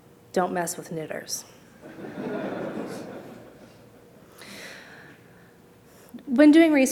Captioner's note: laughter